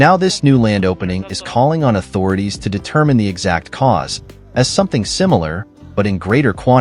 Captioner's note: Horn